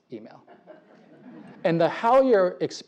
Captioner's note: laugh